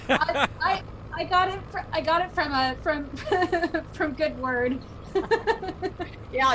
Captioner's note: laughs loudly; laughs